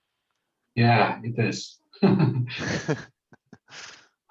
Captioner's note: laughs